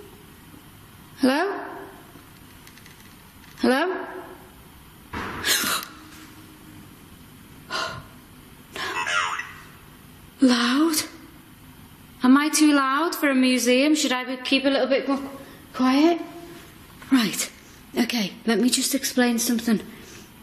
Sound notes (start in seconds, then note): 5.1 thudding bang; 5.8 gasping; 9.3 OVILUS buzzing